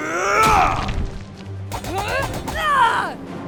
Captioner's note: battle grunt